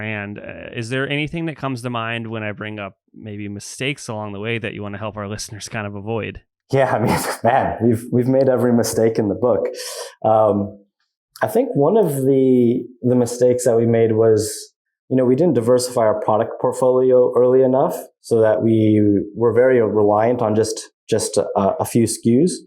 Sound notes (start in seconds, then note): 6.7 laughs